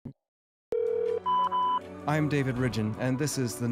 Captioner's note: phone rings, beeps